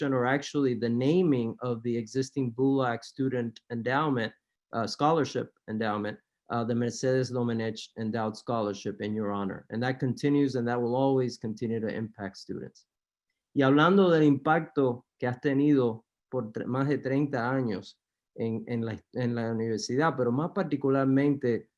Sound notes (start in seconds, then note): 13.5 speaking spanish